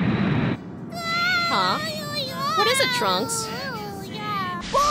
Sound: babbling

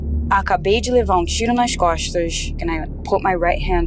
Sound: foreign language

